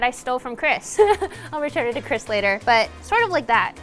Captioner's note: laughs